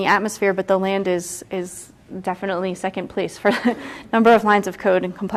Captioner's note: chuckles